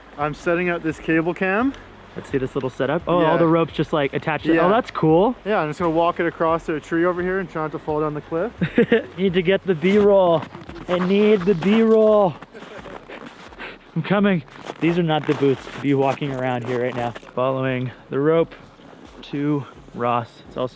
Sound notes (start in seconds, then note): 8.6 laughs; 12.4 laughs